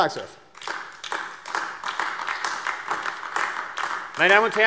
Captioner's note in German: Beifall AfD